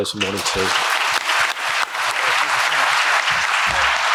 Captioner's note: applause